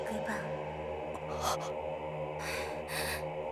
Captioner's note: gasp